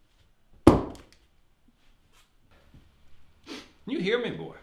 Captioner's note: pistol thuds